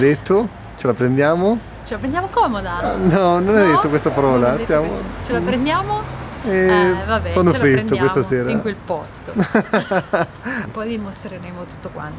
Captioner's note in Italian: Risate